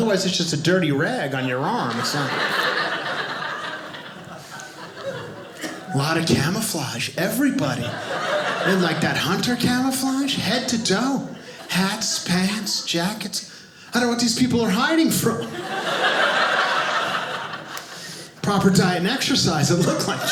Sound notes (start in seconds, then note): 1.3 audience laughing; 15.2 audience laughing